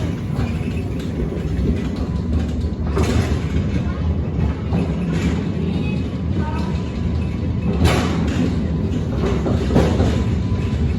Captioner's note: train backing up